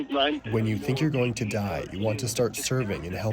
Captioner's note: through translator